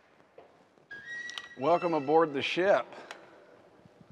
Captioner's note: door opens and creaks